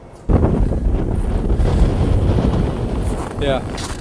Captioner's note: air whooshing